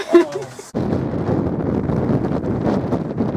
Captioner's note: intense wind